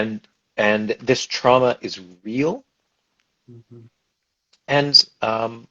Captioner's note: stammers